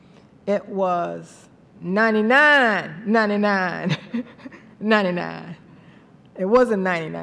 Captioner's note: laughs